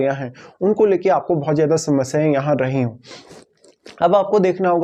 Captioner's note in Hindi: नाक से की जाने वाली आवाज़